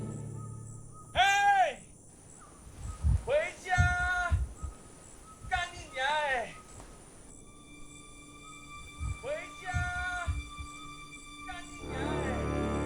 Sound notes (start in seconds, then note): 3.0 Mandarin; 8.8 Joey chanting offscreen